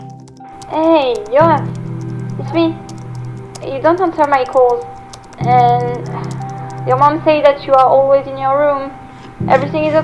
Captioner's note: phone